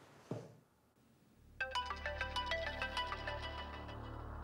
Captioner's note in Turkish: Telefon çalıyor